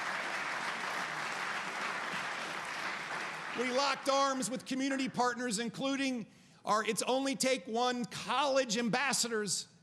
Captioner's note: applause